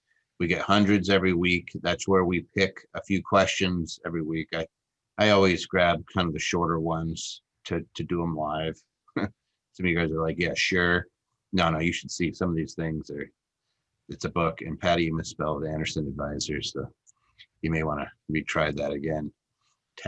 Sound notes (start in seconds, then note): 9.5 chuckles